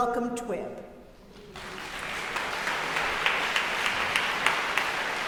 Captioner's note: audience applauding